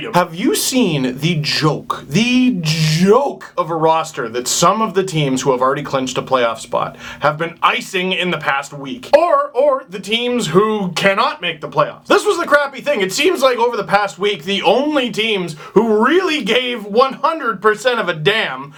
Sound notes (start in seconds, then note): none